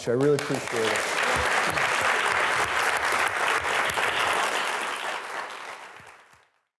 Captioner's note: students applauding